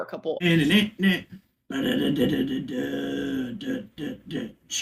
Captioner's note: vocalizes